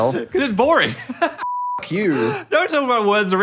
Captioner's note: beep